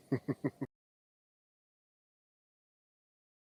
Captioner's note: laughs